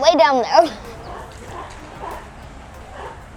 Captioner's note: grunts